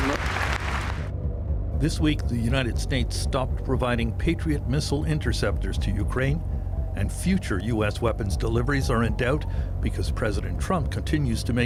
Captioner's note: applause